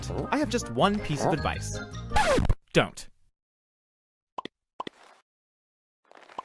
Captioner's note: sound effects: Alien walking out from behind word; sound effects: Alien walking, t flag